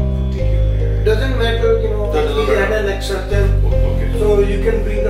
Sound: overlapping chatter

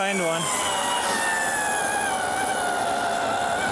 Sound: drilling

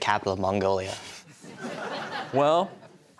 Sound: laughter

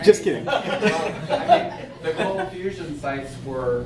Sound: audience laughing

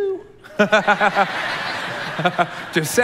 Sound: congregation laughing; laughs

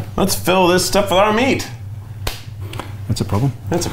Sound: clapping

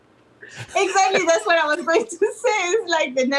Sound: laughs

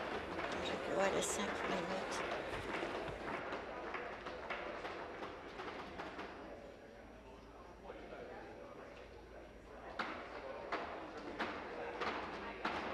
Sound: tapping of desks

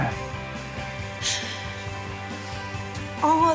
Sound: sniffles

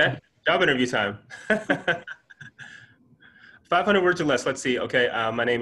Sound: chuckles

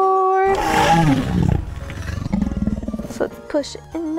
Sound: dinosaur growling

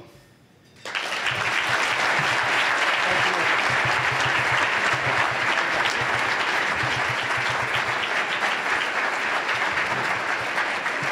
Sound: applause

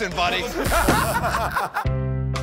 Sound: laughter

